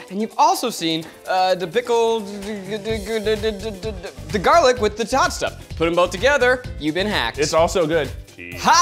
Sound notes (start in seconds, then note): 2.9 stammering